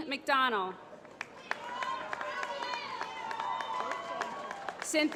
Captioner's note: applause